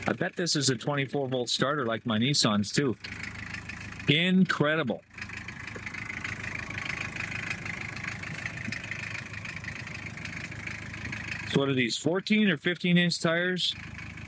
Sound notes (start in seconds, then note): 7.3 engine revving